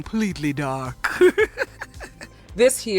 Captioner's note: laughs